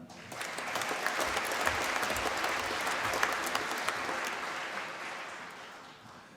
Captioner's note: applause